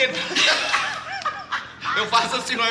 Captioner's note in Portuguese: Risadas